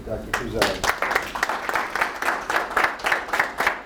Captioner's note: applause